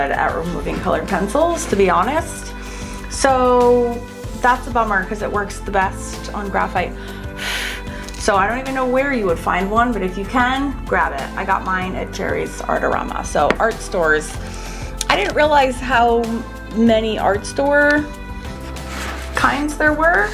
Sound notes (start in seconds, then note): 7.4 blows